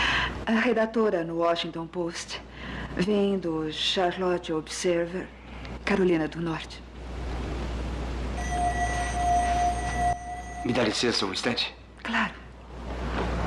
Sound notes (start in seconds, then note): 8.3 alarm Rings